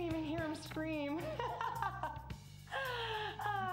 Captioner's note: laughing